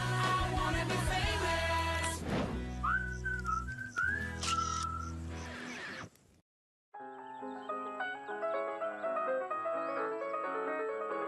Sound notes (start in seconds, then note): 2.8 whistling, Camera Snapping; 6.9 piano music playing